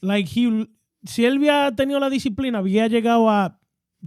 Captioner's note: speaking In Foreign Language